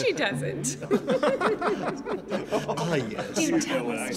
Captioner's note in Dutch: allemaal lachen